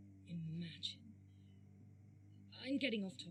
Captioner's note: white noise flickering